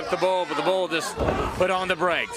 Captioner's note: crowd chatter